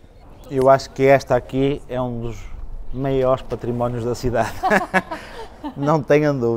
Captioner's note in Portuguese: risos